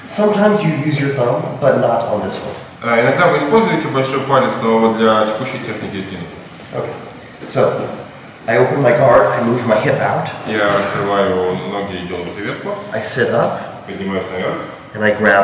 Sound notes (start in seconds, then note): 3.4 speaking in a foreign language; 10.7 speaking in a foreign language; 14.0 speaking in a foreign language